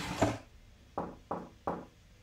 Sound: knocking on wood

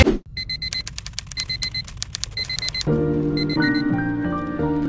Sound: alarm clock beeps

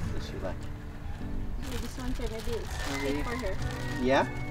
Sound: engine hums

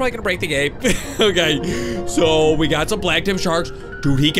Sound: laughs

